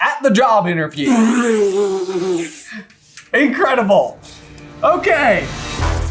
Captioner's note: spits with laughter; intro Theme Music